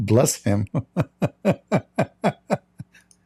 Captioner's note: Ketawa